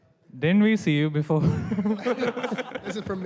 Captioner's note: laughter